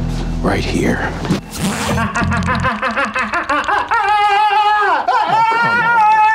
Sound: pants unzipping; Chuck moaning

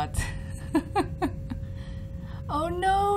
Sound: chuckles in leaper shock

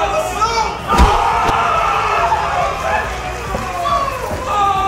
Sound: yelling and screaming

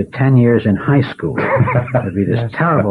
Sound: laughter

